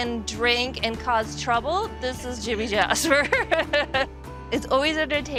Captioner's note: laughing